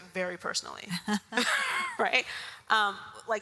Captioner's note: all laugh